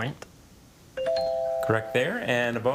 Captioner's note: tone chimes